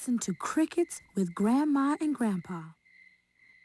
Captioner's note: crickets chirping